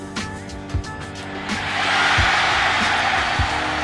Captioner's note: cheering